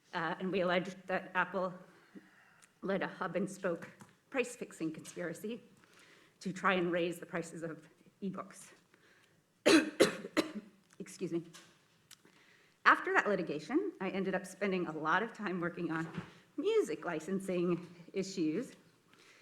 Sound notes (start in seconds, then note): 9.6 coughs